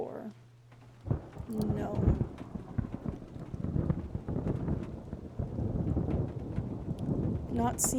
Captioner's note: low thunder rumblings